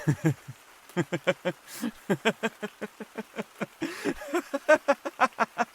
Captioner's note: laughing